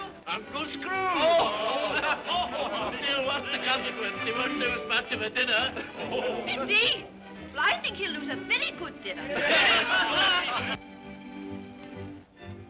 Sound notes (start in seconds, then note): 1.0 guest laugh; 9.3 guests clamor in agreement; 10.7 upbeat music